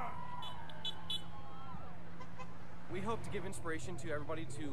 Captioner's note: horns honking